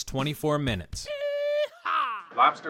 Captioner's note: cowboy cartoon noise